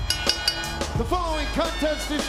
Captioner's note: bell ringing